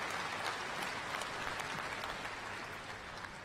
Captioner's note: cheers and applause